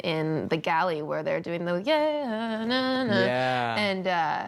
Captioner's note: humming